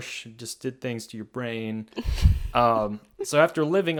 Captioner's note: laughs